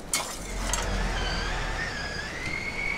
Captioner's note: whirr